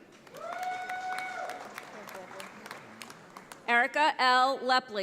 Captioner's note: audience applauds